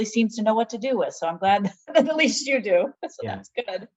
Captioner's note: both laughing